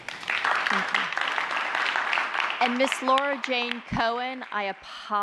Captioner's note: applause